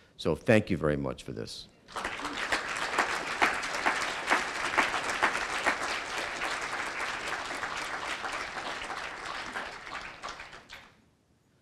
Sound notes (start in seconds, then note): 1.9 applause